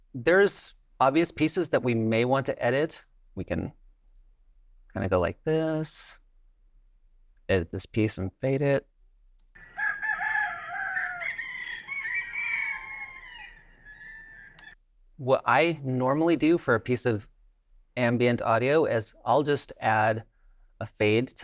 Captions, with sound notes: There's obvious pieces that we may want to edit. We can kind of go like this, edit this piece and fade it. (rooster crowing) (birds chirping) What I normally do for a piece of ambient audio is I'll just add a fade